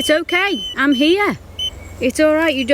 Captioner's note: beep